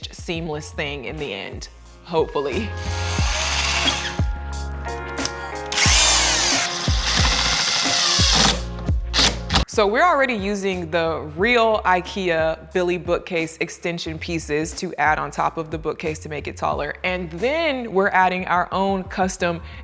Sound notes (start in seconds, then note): 3.6 machine whirling